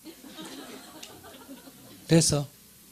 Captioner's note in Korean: 청중 웃음